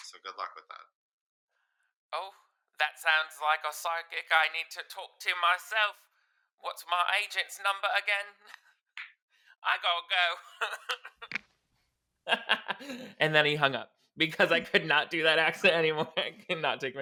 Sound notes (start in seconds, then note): 10.7 laughs; 12.3 normal voice